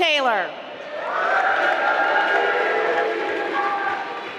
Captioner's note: applause